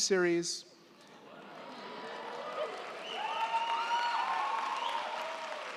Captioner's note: crowd cheering